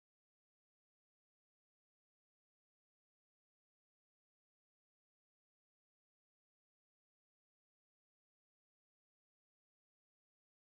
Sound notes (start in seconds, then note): none